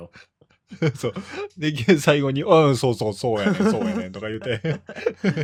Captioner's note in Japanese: 笑い